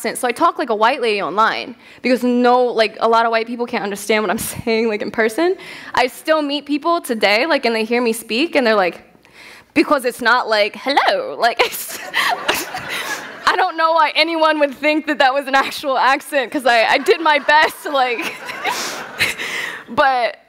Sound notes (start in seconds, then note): 11.6 fancy voice; 19.6 laughter